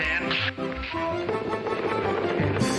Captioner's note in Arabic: صفعة اليد